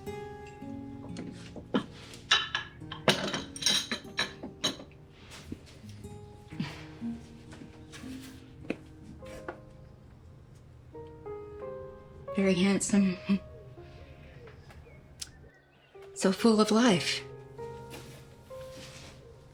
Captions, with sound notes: Very handsome. [chuckles] So full of life.